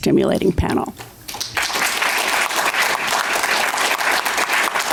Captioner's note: applause